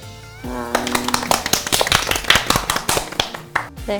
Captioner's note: applause